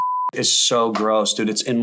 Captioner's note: beep